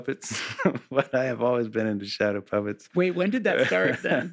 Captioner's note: chuckles